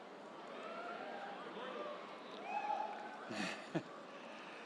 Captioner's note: crowd cheering